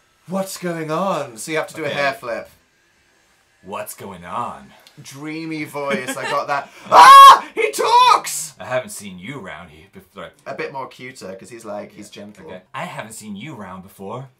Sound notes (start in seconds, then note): 3.5 in a somewhat sultry voice